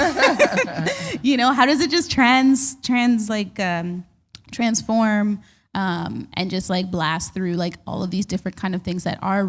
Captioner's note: chuckle